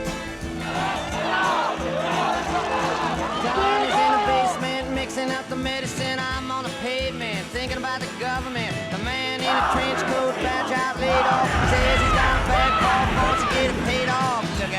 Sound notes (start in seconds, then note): 3.8 protesters chant